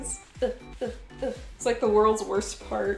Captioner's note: sounds of struggling